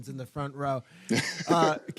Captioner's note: laughs